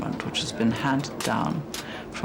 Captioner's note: none